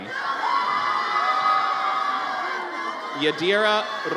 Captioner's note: audience cheers